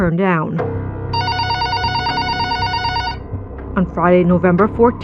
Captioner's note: phonene r ringiging